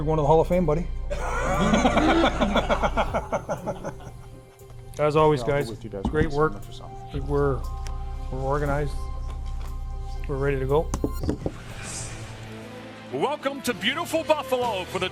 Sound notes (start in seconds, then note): 1.1 laughs